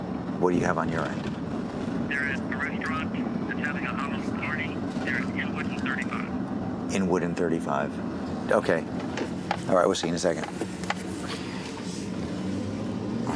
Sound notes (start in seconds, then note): 2.5 on phone